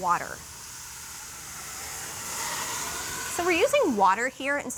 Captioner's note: sizzles